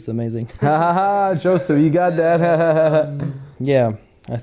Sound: laughs

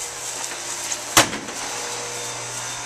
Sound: screen door slams shut

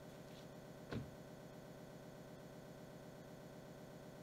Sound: car door closing

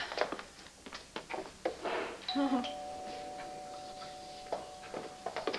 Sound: doorbell rings

